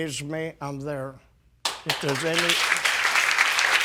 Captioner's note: audience clapping